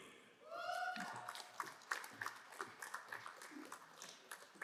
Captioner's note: crowd applauding